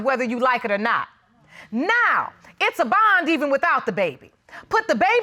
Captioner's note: none